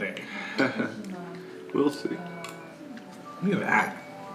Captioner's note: chuckle